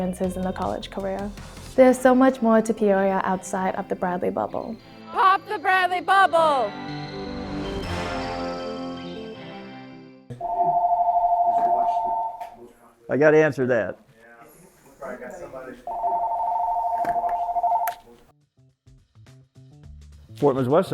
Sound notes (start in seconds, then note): 8.1 uplifting music; 10.4 phone ringing; 15.8 phone continues ringing